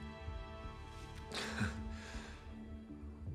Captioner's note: chuckles